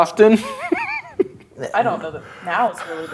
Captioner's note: laughing